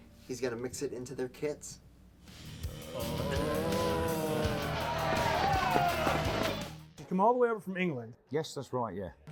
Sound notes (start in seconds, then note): 2.8 zombies groaning; 6.1 crowd yelling